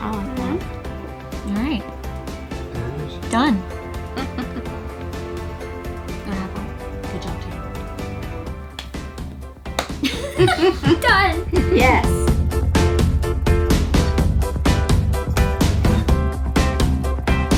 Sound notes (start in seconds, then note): 9.6 group high fives; 9.8 group laughs